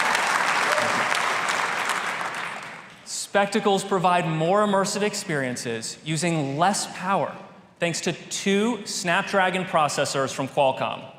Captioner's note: applause